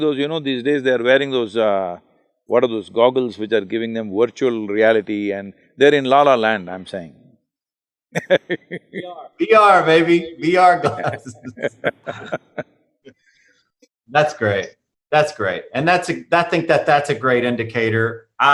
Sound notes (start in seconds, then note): 8.1 laughs; 10.7 both laugh